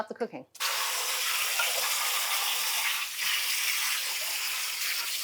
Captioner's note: water splashing